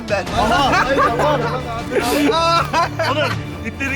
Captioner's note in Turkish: gülme sesleri